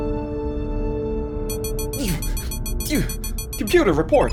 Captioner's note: alert noise